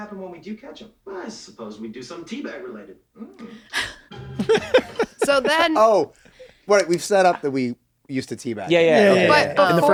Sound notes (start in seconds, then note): 4.3 Charlie laughs